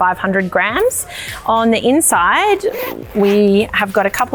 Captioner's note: zipper zipping